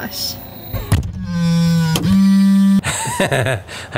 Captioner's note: car trunk bangs; narrator laughs